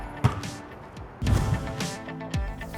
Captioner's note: upbeat music; ball bouncing off wall